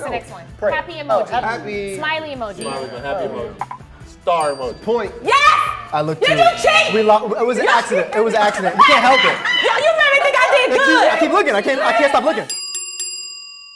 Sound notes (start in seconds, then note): 4.3 bell dings; 8.7 Antoinette laughs